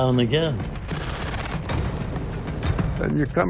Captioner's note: machine gun firing